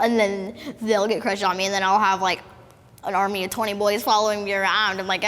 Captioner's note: none